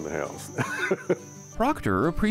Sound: laughs

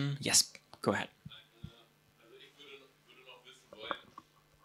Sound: audience member speaking

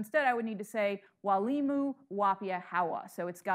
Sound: speaking in foreign language

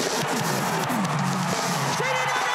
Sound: crowd cheering

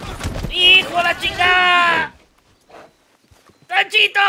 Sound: yells in Spanish

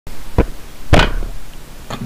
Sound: banging microphone

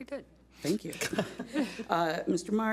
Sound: laughs

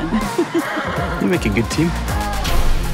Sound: horse whinnies

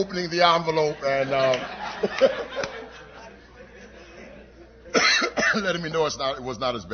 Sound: laughter

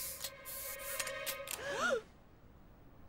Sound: all gasping

